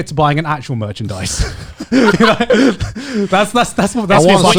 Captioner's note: hosts laughing